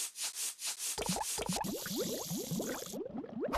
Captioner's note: bubbling